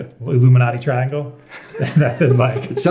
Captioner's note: laughing